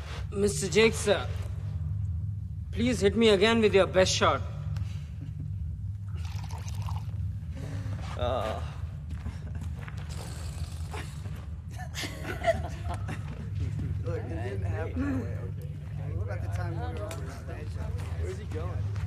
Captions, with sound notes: Mister Jake, sir. Please hit me again with your best shot. Oh. [laughs] [indistinct chatter]